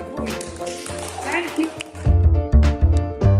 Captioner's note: applause